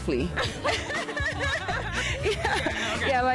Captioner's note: both laugh